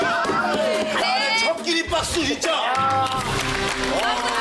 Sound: loud applause

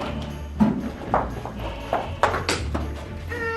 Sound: footsteps

